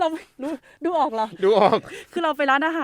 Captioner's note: laugh